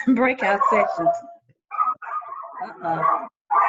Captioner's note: dogs barking